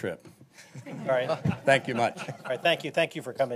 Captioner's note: laughter